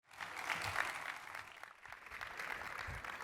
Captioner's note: crowd clapping